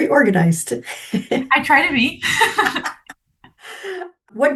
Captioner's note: laughs